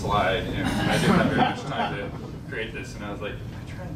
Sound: laughing

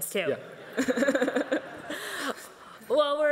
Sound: everyone laughing

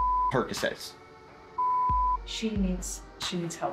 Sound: beep

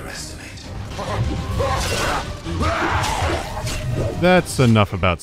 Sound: screams alongside wet thudding sounds

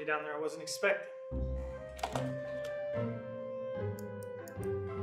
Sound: cell phone rings

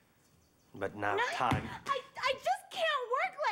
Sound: yells

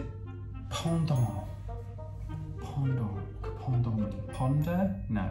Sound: speaking in foreign language

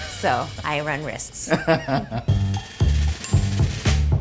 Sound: chuckling; upbeat music

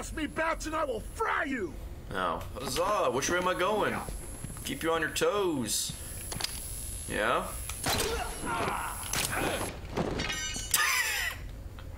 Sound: laughs

